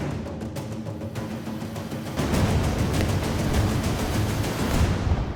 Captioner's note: rifle fires